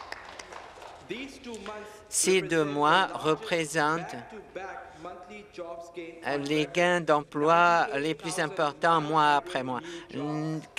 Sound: some Applause

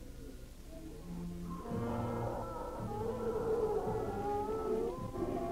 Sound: creature growling

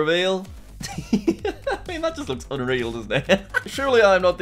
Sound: laughs

